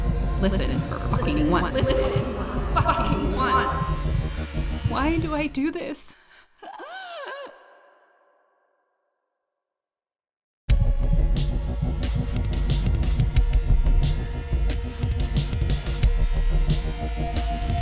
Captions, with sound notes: Listen for fucking once. Listen. LISTEN. FOR FUCKING ONCE. Why do I do this? [Gasp]